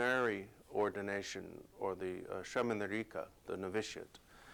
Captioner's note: non-english speech